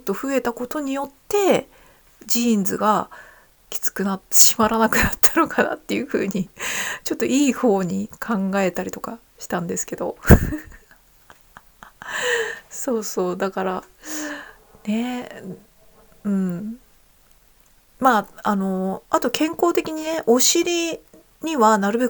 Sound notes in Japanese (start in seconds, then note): 6.8 笑い; 7.3 息をのむ音